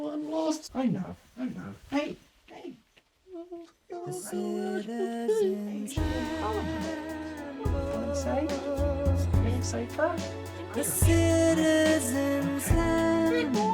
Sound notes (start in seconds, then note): 4.0 crying